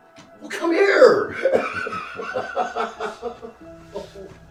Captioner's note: dad laughing